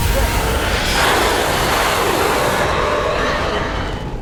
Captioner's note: monster screams